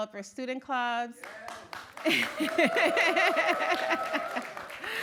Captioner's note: cheers